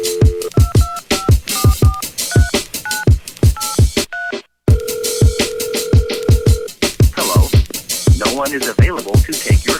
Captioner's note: dial tone